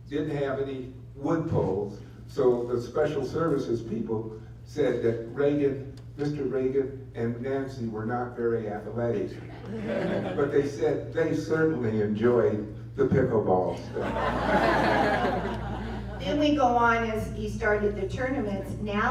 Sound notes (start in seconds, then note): 9.5 laughter; 13.8 laughter